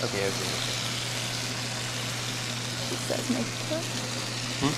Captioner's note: food sizzling